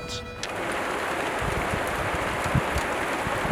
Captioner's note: sound of rain